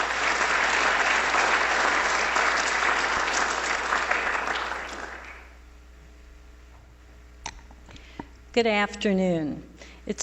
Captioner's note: applause